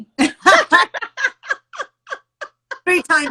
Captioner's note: both chuckle